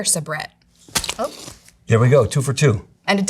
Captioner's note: package thunking